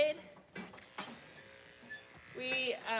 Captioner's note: clippers buzzing